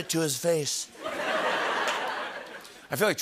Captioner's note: laughter